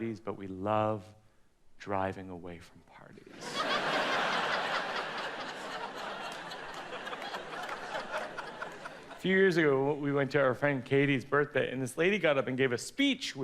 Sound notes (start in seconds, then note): 3.3 audience laughs